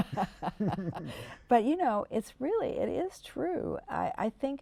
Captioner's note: laughter